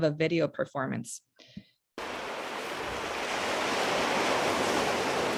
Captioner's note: pounding waves